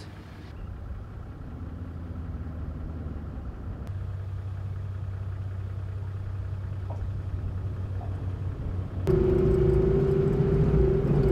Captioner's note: vehicle sounds